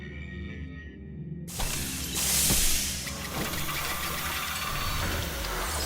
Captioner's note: hydraulic noise